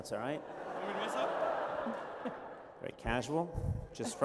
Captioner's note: laughter